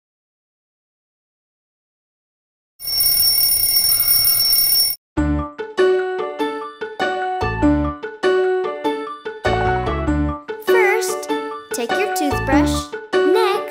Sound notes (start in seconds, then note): 2.8 alarm ringing; 5.2 uplifting music